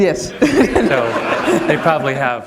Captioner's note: laughter